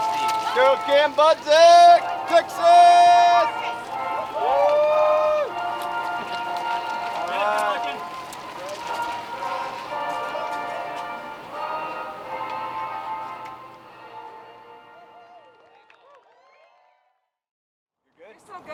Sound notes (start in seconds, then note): 0.2 crew chattering; 14.5 loud cheers